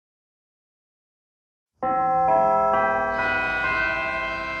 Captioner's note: bell chimes